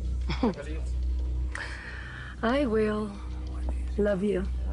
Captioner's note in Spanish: Ríe